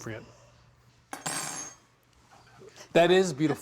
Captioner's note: utensil clatters